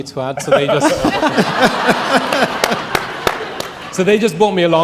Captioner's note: audience laughing